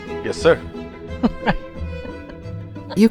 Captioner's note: laughs